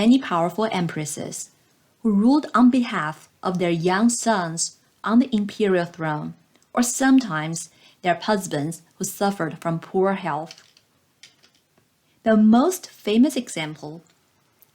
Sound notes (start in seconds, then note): 11.4 click